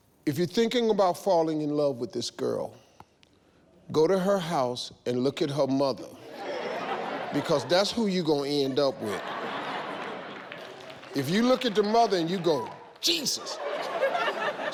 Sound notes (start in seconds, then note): 6.2 audience laughs